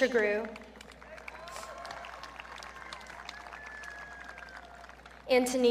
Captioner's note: audience cheering